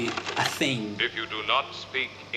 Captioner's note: soundbite of film, "forbidden planet"